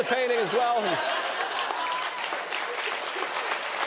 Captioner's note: cheers and applause